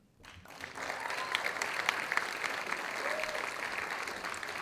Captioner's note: audience applauding